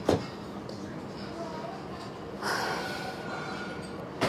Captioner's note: sighing